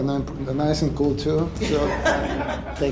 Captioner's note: laughter